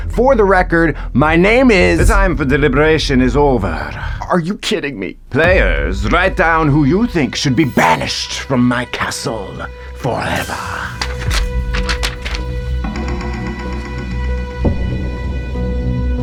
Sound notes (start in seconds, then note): 10.0 paper rustling; 13.0 tense pensive music